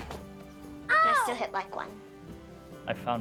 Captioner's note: groans